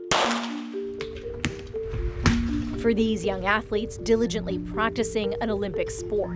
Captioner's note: gunshot